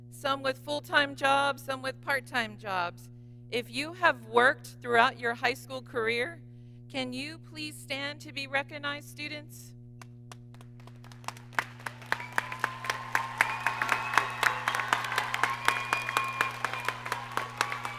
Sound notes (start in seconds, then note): 10.6 audience applauds and cheers